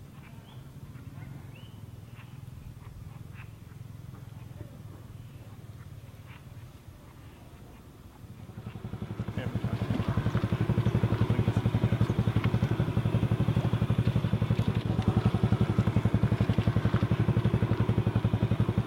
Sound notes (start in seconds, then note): 1.0 birds chirping; 10.7 motorbike roars